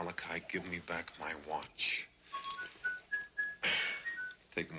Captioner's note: watch beeping